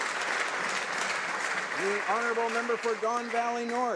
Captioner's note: some Applause; applause